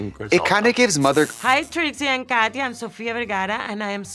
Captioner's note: electricity sparkles